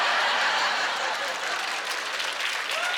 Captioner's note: laughter; applause